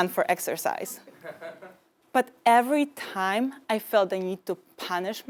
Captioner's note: laugh